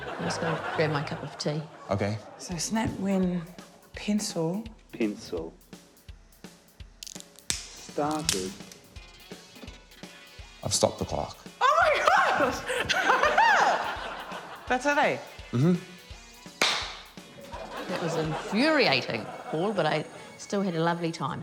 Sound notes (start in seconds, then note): 7.0 snap!; 11.6 laughs